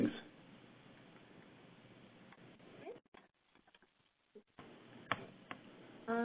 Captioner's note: 5 seconds pause